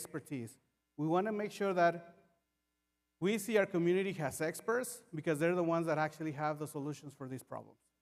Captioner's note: none